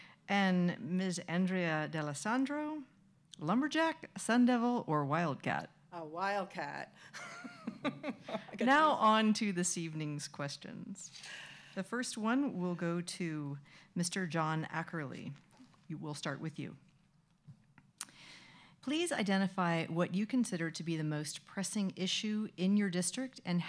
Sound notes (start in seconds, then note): 7.1 laughs